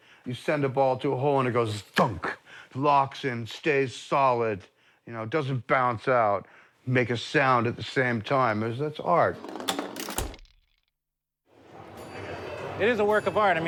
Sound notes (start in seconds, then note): 9.4 satisfying ball clunk